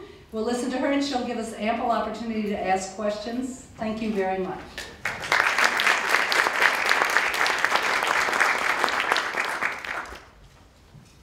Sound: applause

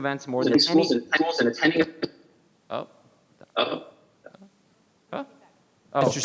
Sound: participant faintly speaking in the background

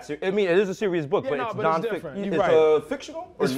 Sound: none

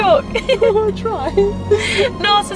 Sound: giggles

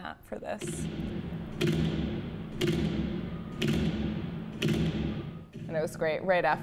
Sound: rhythmic thumping

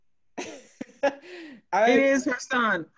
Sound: laughing

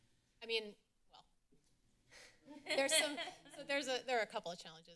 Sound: laughter

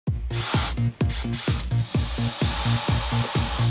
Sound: drill whirrs; upbeat electronic music

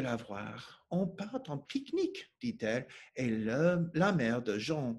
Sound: speaking French

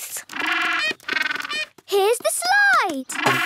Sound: honking

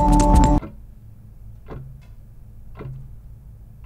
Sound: clock ticking

